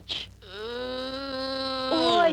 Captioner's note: groaning